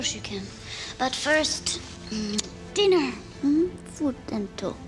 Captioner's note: <i> kisses</i>